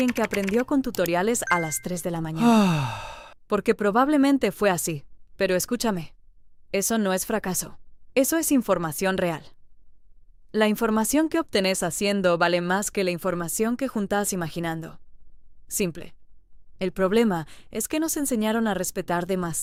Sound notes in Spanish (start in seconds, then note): 2.3 suspiro